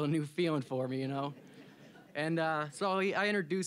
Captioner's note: audience laughing